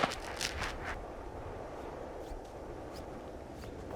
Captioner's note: wind humming